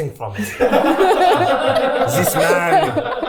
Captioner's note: everyone laughing